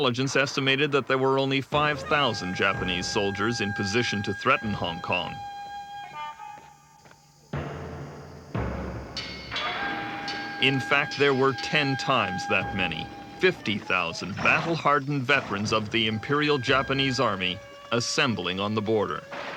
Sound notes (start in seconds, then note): 9.6 boat engine roaring